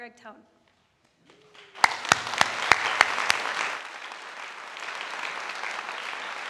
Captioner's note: audience applauding